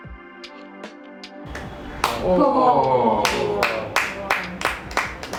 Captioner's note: claps